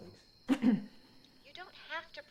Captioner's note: clears throat